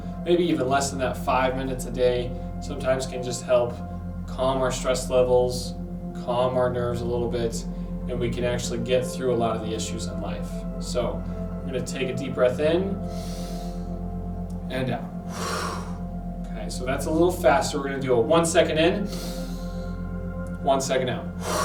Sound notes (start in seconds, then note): 13.1 inhales; 15.1 exhales; 19.1 inhales